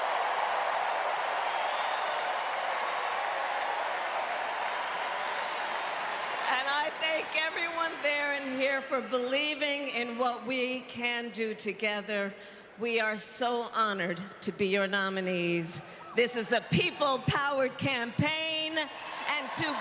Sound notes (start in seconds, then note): 5.7 cheers and applause